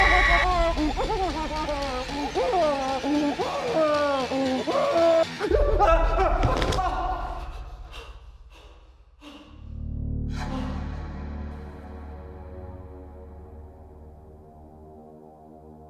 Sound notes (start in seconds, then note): 6.0 Danny shrieks; 6.4 thudding; 10.6 heavy breathing; 10.6 light dramatic music